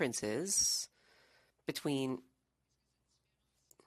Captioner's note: speaking French